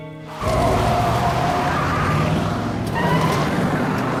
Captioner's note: tires squeal